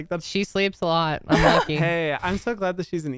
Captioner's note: laughs